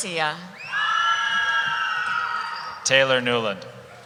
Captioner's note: cheering